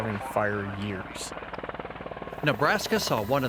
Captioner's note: whirling sound